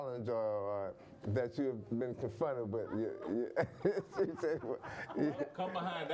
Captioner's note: laughing